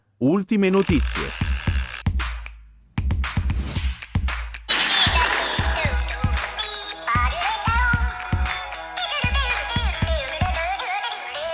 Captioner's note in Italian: Applauso